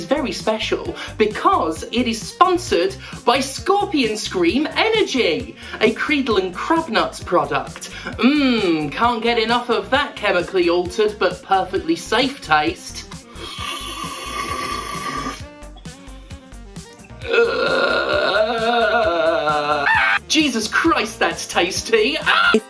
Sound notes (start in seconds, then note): 13.3 slurp; 17.2 low groan / Scream